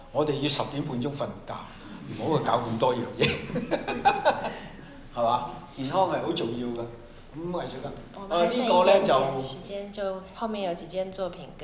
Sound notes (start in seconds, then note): 3.2 laughter; 8.8 Mandarin